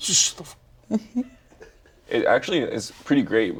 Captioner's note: laughs